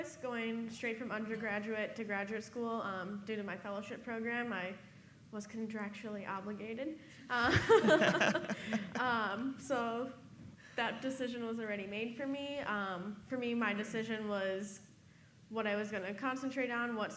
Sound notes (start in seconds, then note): 7.4 laughing